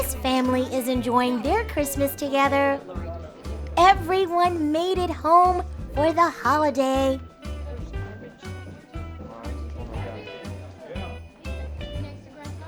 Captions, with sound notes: This family is enjoying their Christmas together. Everyone made it home for the holiday. (family murmuring)